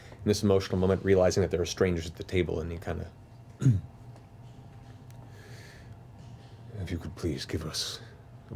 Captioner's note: clears throat